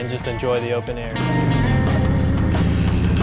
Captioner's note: motor rumble